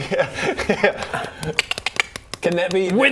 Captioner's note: thwack